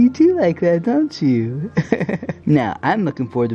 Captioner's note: laughs